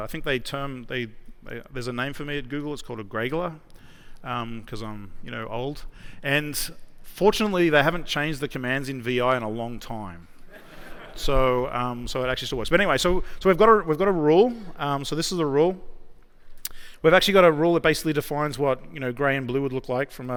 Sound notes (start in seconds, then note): 10.4 laughter